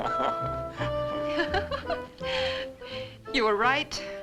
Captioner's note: laughs